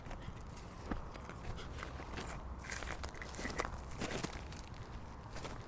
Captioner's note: footsteps crunching continues